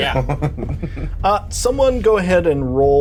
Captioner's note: Bobby chuckles